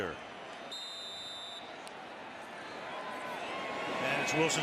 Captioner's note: whistle blowing